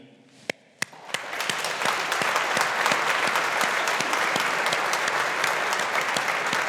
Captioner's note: all applauding